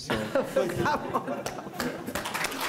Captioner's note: laughs; audience chuckling; audience applauding